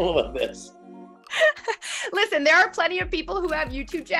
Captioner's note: laughs